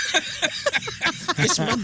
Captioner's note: laughing